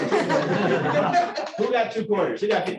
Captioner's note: laughter